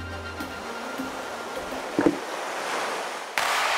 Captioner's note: waves whooshing